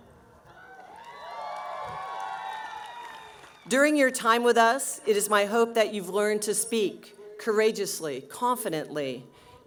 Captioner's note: cheering